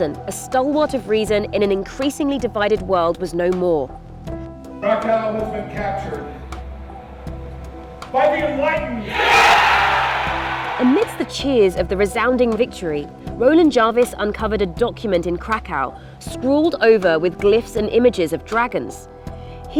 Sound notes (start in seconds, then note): 9.0 cheering